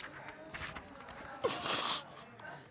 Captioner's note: sobs